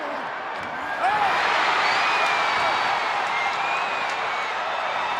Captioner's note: crowd cheering